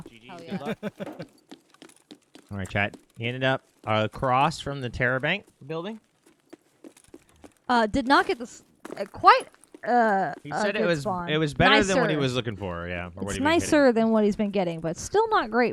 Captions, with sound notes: - Like GG's, good luck. (laughing) - All right, chat, he ended up, he crossed from the terror bank building. - Did not get quite a good bond. - It was better than what he was looking for, yeah. - It's nicer than what he's been getting, but still not great